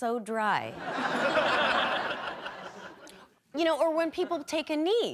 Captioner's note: audience laughing